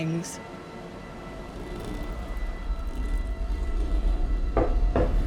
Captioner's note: quiet moan/scratching sound; door knocking/scratching sound